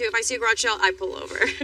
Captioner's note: lauaughs